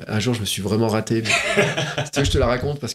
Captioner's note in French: rires